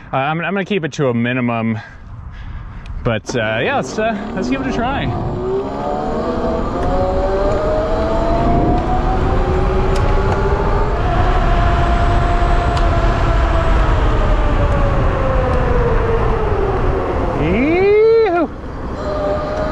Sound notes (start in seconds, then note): 5.3 bike motor revving